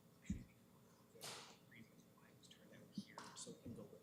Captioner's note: whispering